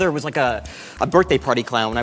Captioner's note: deep inhale